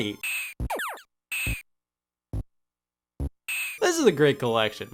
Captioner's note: video game beeps